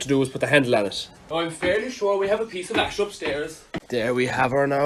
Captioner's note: older irish person voice